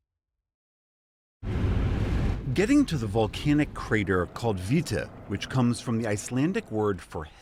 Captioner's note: voice-over